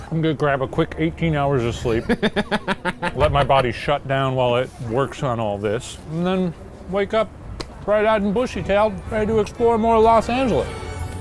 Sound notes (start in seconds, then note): 1.8 laughing